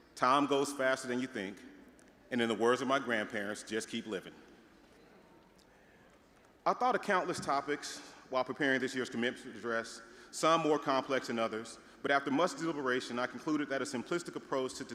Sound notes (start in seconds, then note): 4.6 audience murmuring